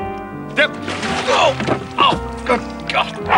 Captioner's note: both exclaiming